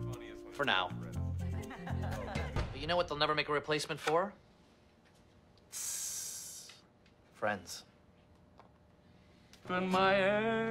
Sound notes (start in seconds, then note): 5.7 ABED makes a sizzle noise; 10.1 singing